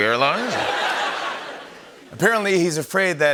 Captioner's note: laughter